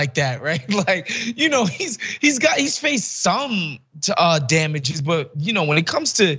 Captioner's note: laugh